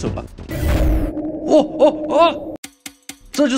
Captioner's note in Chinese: 奇怪的呻吟聲